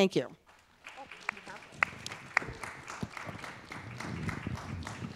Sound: audience applauding

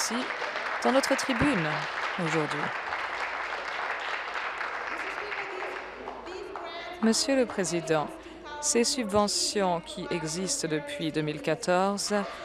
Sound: applause

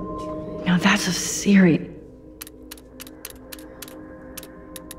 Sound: display clicking

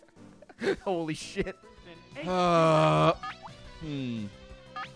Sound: laughs; groans

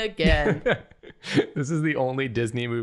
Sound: laughter

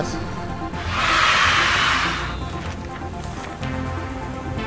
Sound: cheers

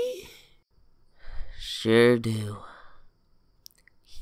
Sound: sighs

